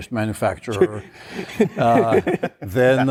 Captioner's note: laughter